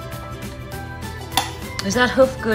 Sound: chewing noises

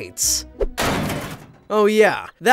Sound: metal clanks

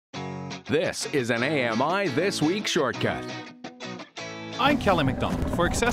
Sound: voiceover

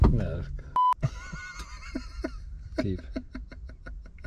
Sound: laughs

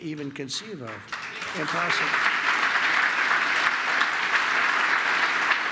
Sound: applause

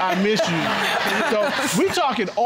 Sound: all laughing

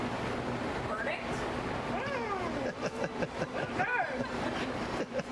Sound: laughter

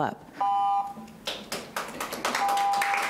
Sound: timer rings; clapping

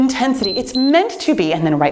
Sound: timer beeps

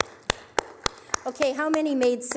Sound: applause

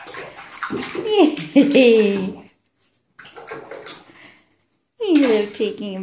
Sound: water splashing

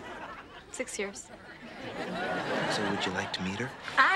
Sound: audience laughing

